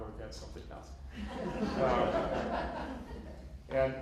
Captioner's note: laughter